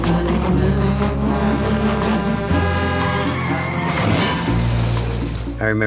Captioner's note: horns, tires screeching